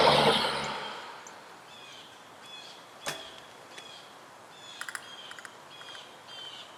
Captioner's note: car door opening